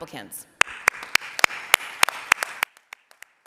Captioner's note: applause